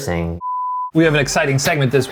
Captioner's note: beep